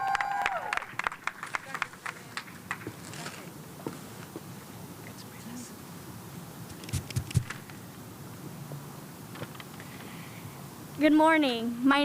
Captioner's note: cheers and applause